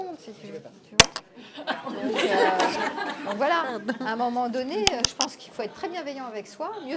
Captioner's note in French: rires